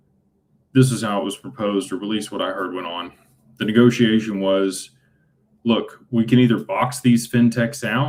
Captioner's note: none